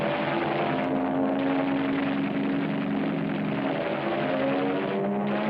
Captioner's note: gunfire